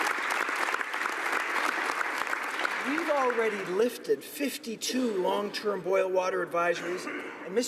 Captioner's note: applause